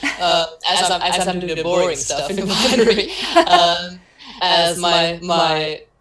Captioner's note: laughs